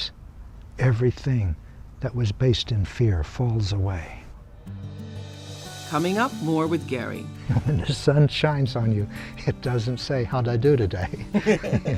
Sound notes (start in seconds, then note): 7.5 laughing; 11.0 both laugh